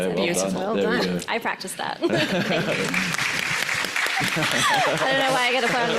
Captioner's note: audience applauds